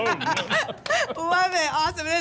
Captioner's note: laughter